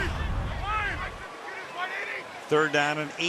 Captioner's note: players shouting